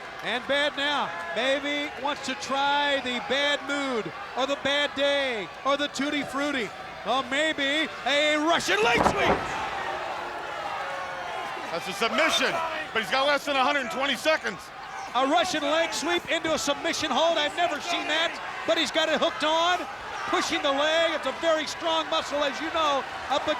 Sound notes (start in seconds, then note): 8.7 body thudding; 14.3 wrestlers grunting